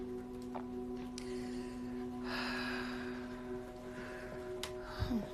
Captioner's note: Grandma exhaling slowly